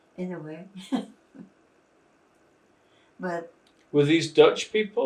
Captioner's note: laughing